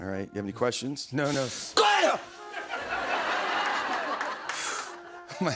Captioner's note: shouts